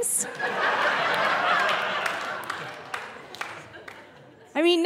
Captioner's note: audience laughing